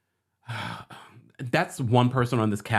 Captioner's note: Kempire heavily breathes